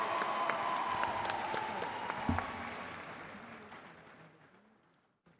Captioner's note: crowd applauding continues